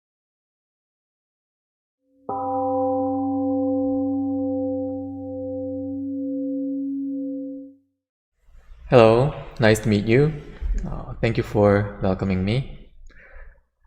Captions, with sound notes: [Temple gong rings and fades] Hello! Nice to meet you.